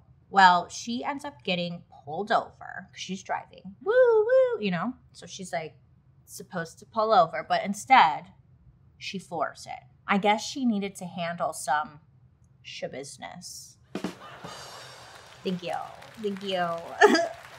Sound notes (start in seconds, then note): 13.9 drum rim shot; 14.0 faux crowd cheering